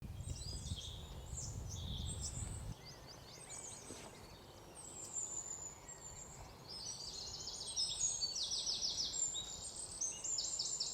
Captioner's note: birds chirp